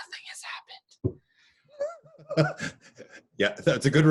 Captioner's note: all laugh